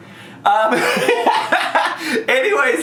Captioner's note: laughing